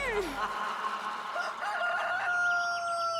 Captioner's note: groaning; rooster crows